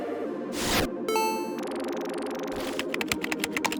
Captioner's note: ambient music; ambient music continues; electronic ping; keyboard clacking; ambient music continues